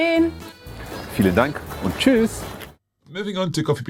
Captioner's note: speaks in foreign language